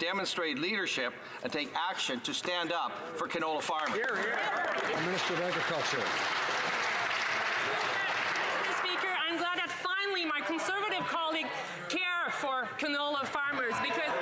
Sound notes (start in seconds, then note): 7.0 some Applause